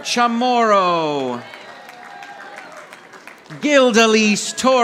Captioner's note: audience applauding